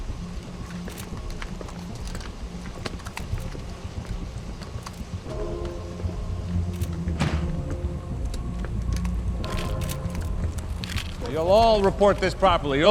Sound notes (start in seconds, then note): 0.8 tense music; 9.4 camera shutters clicking